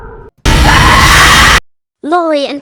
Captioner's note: Laurie screams